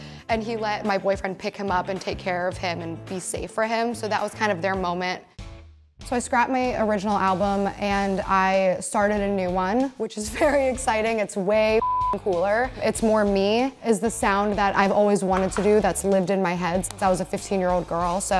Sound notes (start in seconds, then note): 11.8 beep